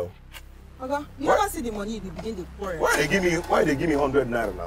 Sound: woman speaking in foreign language

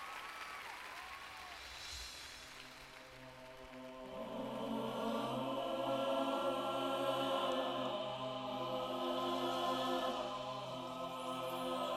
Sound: applause

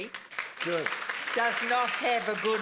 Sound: applause

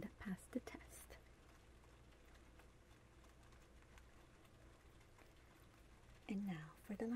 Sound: rain sounds

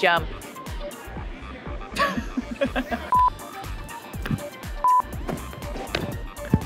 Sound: upbeat music; laughing

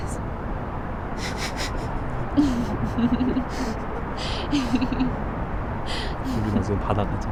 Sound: Youngwon and Jiwoo laughing

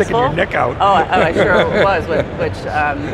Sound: laughing

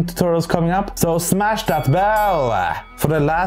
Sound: bell ringing

